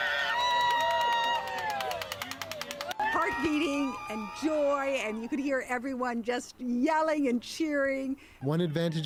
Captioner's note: cheers and applause